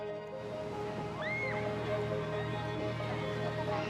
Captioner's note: children squealing